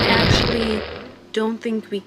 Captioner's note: loud fart